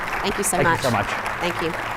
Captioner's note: audience applauds